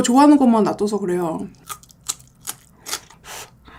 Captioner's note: angrily biting cucumber